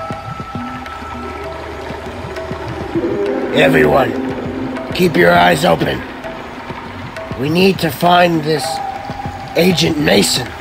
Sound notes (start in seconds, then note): 0.1 adventurous music; 1.3 dinosaurs roar